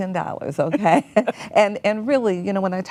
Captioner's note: laughs